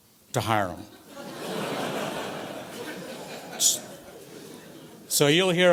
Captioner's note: audience laughs